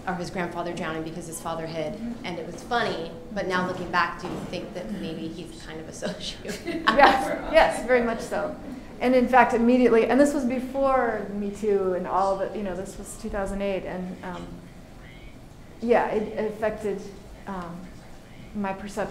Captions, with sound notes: or his grandfather drowning because his father hid, and it was funny, but now looking back, do you think that maybe he's kind of a sociopath? (audience laughing) - Yes, very much so. And in fact immediately, and this was before MeToo, and all of it, you know, this was 2008, and yeah, it affected my perception